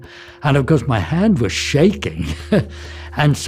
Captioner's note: laughs